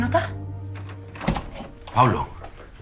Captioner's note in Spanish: Sonido al abrir la puerta